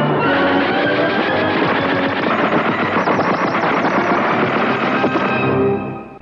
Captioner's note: beeping